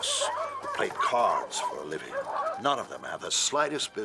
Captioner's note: dogs barking